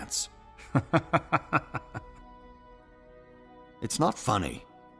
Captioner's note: laugh